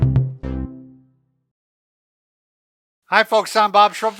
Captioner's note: cheerful tone